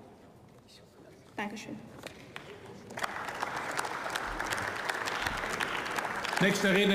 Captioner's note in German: Beifall